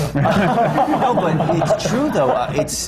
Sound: laughter

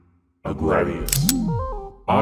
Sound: gun clicking

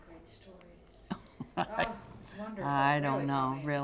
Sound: laughter

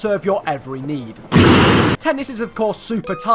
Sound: crashing noise

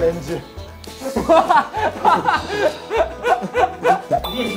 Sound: kekekekeke

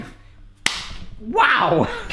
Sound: hands slapping

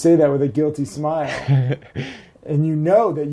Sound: laughs

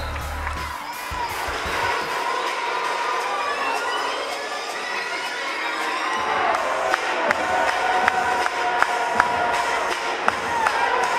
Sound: crowd noises

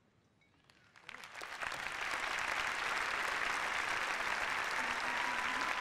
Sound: applause

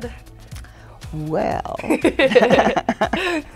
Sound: both laugh

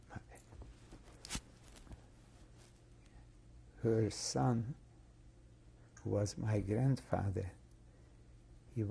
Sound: pauses for 3 seconds

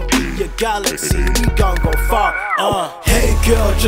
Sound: ugh

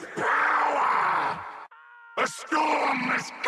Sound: Barik screaming

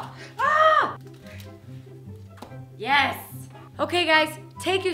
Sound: yells

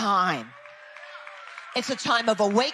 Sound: people cheering

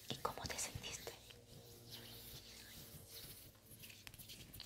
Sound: hand sounds

